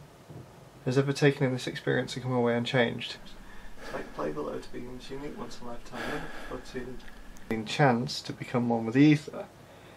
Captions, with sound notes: ..has ever taken in this experience and come away unchanged. [heavier breathing] -chance to become one with The Ether.